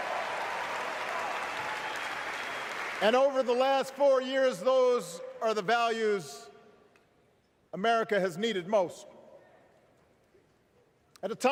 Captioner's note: cheers